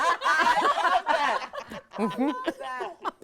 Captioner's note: everyone laughing